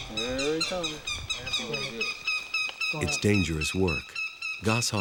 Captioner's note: goshawk squawking